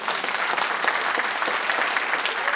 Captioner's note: applause